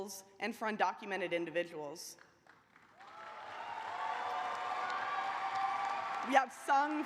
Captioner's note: cheers and applause